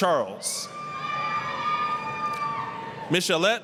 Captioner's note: applause, cheering